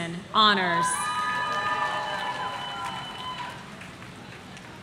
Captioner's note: audience cheering